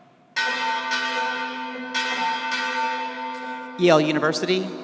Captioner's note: bell clanging